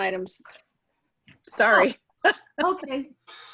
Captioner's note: laughing